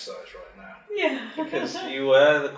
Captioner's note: laughing